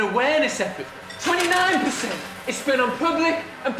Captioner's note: more candy clinks